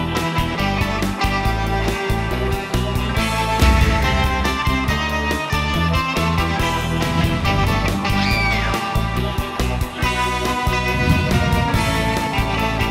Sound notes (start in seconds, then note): 8.1 girlish scream